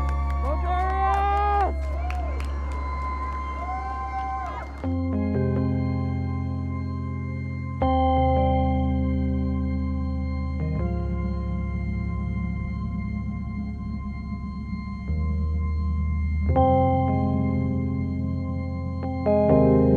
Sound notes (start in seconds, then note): 2.9 more cheering; 4.9 slow ethereal music